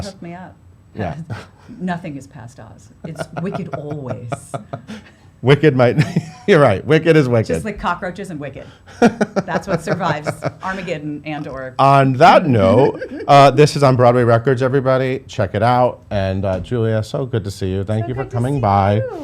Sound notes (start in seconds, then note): 3.0 laughs